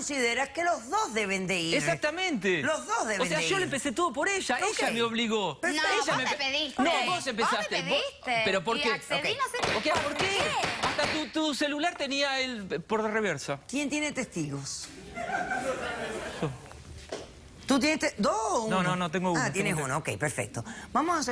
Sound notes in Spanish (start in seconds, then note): 10.4 hablan al unisono; 15.1 risas